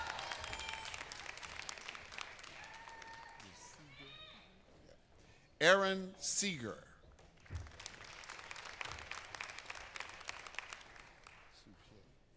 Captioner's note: applause